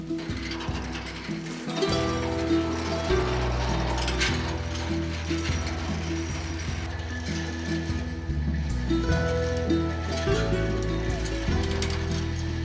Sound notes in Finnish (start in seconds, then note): 0.1 metallin kolina, ketjujen kilinä